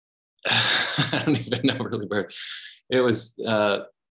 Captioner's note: laughs